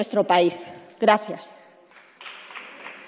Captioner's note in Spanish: Aplausos